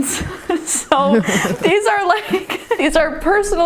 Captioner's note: laughing